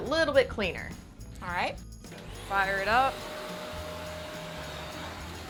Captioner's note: vacuum cleaner humming